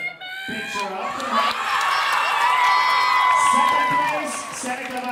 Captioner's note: audience cheering